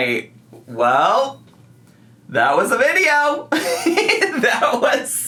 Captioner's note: laughs